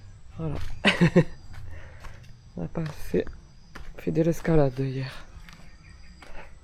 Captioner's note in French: rires